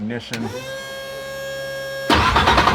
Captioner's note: fuel pump turns on; engine starts